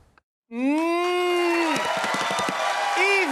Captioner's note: cheers and applause